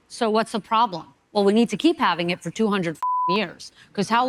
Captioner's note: beep